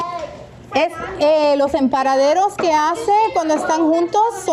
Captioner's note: in Spanish